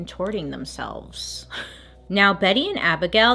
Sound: slight laugh

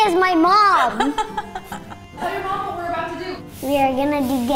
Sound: laughs

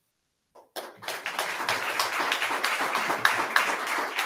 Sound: audience clapping

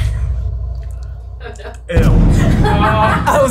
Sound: laughing

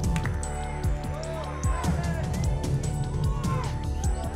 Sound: audience shouting numbers

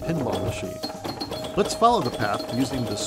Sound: pinball machine sound effects

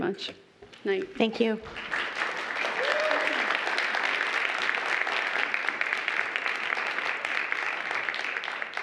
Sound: applause

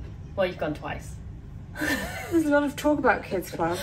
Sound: laughs

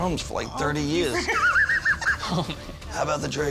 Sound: laughs

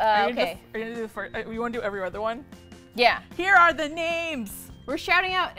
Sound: singsong

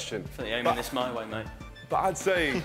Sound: chuckling

